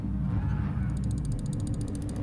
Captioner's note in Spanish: Ghouls gritando en la distancia